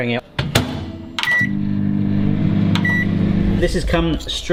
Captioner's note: microwave beeps and whirs